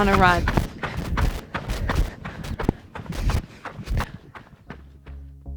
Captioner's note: sound of heavy breathing and running breaking up